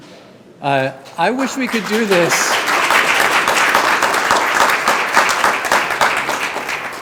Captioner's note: audience applauding